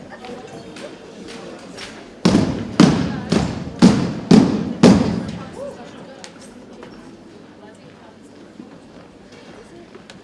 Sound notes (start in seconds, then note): 2.2 rhythmic thumping continues